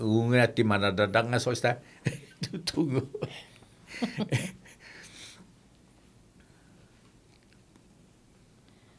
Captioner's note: laughing